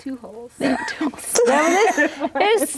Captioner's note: laughs